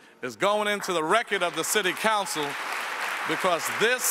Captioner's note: audience applauds